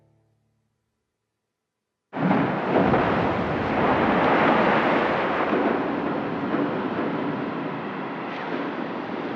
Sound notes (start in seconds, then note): 2.2 waves crashing violently